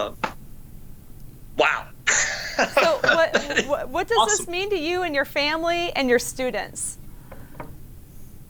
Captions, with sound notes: Wow. (laughs) So what does this mean to you and your family and your students?